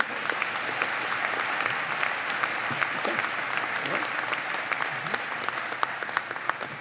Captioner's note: applause